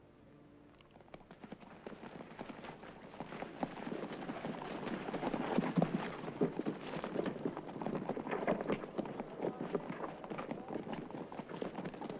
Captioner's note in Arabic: ضربات الحوافر